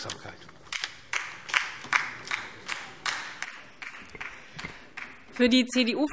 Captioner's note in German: Beifall DIE LINKE und vereinzelt SPD